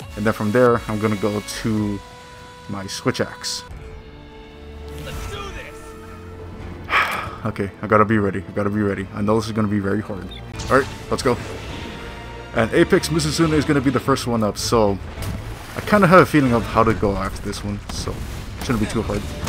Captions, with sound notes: then from there i'm gonna go to my switch axe (sigh) okay i gotta be ready i gotta be ready i know this is gonna be very hard all right let's go and apex mizutsune is going to be the first one up so... i kind of have a feeling of how to go after this one so... shouldn't be too hard